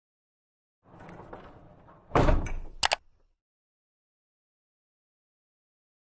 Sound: rolling bump and mouse clicks

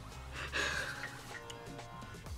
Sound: laughs

